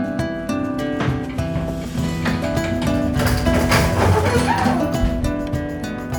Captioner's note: squeaky door noises